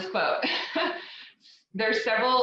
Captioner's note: laughs